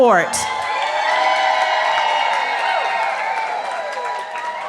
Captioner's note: cheering